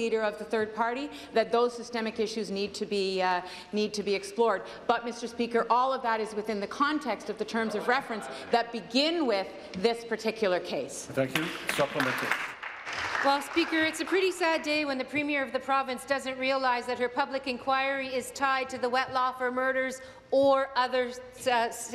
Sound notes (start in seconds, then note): 14.9 applause